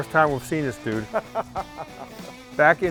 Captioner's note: laughs